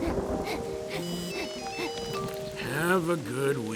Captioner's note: heavy breathing; phone Beeps